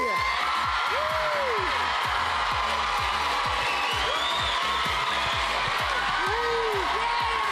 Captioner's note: cheers and applause